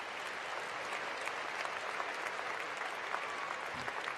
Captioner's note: cheering and applause